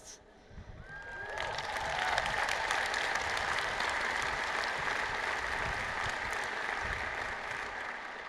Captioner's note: cheers and Applause